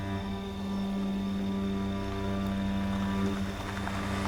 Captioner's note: car rumbling